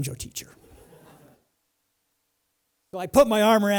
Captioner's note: laughter